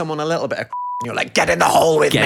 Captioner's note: beep